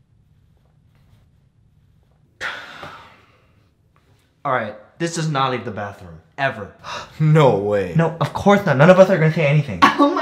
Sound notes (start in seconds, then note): 2.4 reluctant sigh; 7.0 gasping